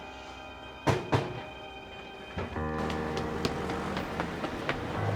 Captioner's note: knocking on door